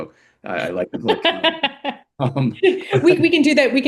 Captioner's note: laughter